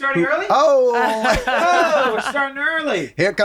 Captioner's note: laughing